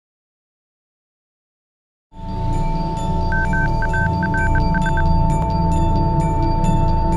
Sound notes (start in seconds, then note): 3.2 radar beeping